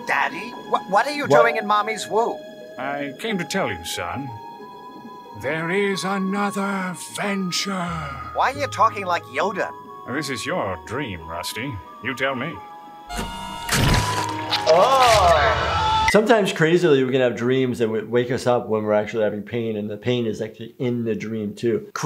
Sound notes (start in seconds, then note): 13.7 wet, squishing sounds; 14.7 distressed yelling